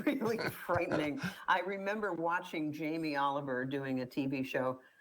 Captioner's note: laughs